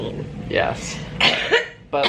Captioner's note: coughs